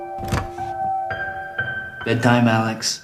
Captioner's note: door opens